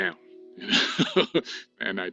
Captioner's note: chuckles